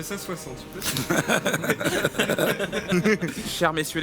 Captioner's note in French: rires